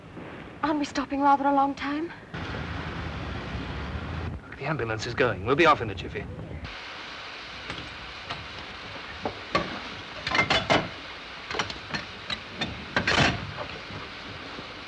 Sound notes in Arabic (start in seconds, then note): 2.3 سيارة الإسعاف تبتعد; 7.5 صوت رنين المعدن